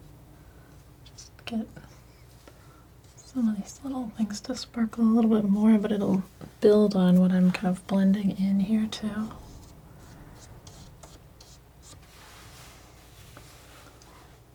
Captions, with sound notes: Just get some of these little things to sparkle a little bit more, but it'll build on what I'm kind of blending in here too. (scratching) (scratching)